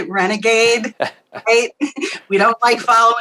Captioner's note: both laugh